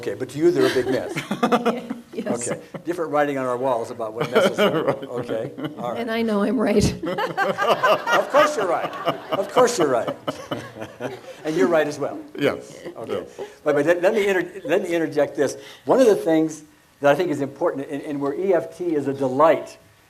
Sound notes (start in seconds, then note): 0.5 laughs; 4.1 laughs